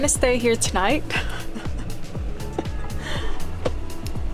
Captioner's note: laughs